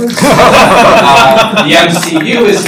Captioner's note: laughter